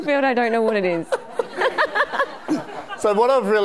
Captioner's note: laughing